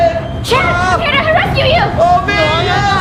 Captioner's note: shouts